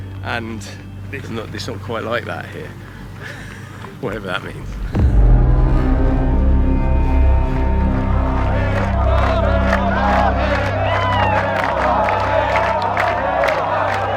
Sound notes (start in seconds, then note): 6.1 dramatic music; 8.8 crowd chants